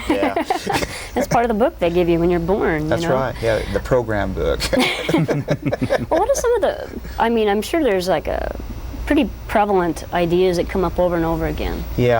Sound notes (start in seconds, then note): 4.6 laughs